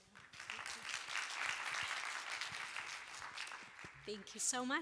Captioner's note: applause